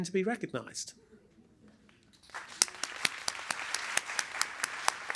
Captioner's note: applause